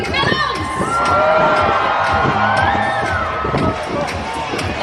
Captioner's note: crowd cheering